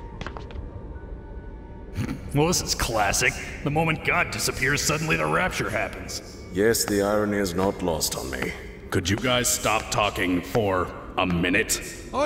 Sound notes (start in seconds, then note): 2.2 snickers